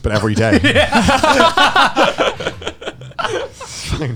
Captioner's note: hosts laughing